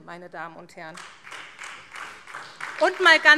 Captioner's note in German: Beifall SPD